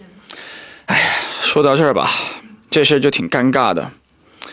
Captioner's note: sigh